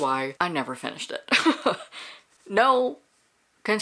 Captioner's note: laughs